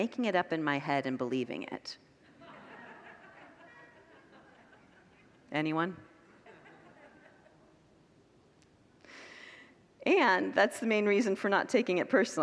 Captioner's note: congregants laugh